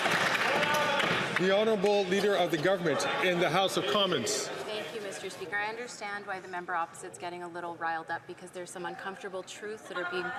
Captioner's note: some Applause